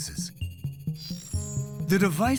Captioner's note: electronic buzzing